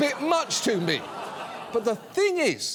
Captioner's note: audience laughs